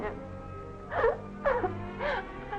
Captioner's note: sobbing; more sobbing